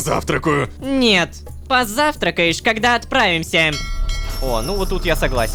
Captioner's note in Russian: Звук корабельного колокола